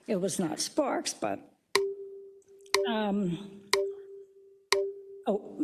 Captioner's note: timer pings